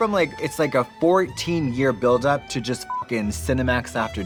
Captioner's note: beep